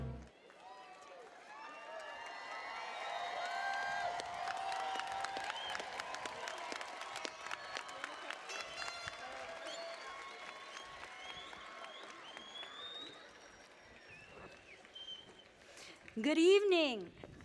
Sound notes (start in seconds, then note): 1.2 applause